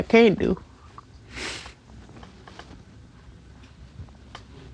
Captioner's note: sniffles